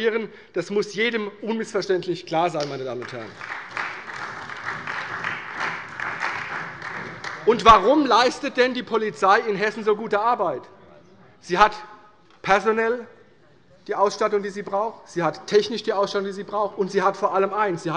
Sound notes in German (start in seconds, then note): 2.9 Beifall bei der CDU und dem BÜNDNIS 90/DIE GRÜNEN